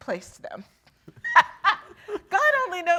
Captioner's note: laughing